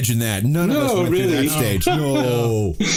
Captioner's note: laughs